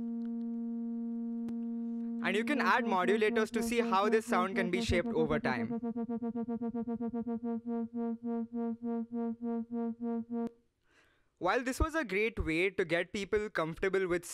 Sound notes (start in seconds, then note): 1.1 low buzzing sound in background; 5.9 buzzing in quick repetitive bursts; 7.8 buzzing bursts slows down